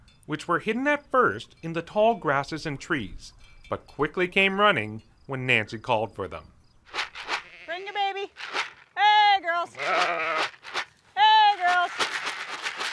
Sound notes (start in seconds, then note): 9.6 bleating